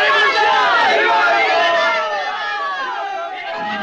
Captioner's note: Spanish spoken audio